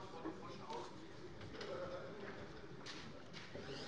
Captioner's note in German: none